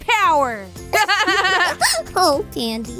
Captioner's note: laughter